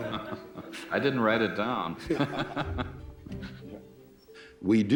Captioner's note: laughing